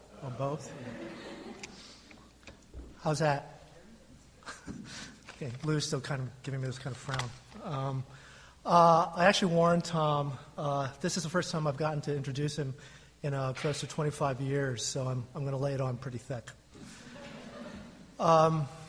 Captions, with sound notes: or both? (crowd laughing) How's that? Okay, Lou's Still kind of giving me this kind of frown. I actually warned Tom. This is the first time I've gotten to introduce him in a close to 25 years. So I'm, I'm gonna lay it on pretty thick.